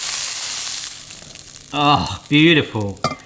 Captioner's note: pan sizzles